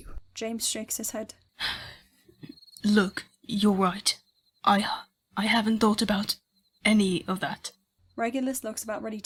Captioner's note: he takes a shaky breath